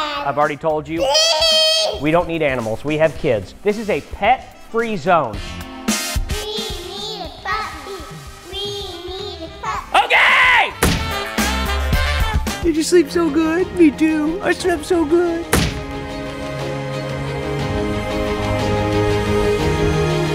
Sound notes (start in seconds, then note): 10.8 thud; 15.5 thud; 16.5 upbeat music